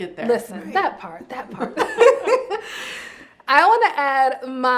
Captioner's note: laughs